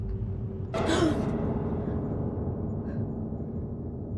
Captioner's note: Emma gasping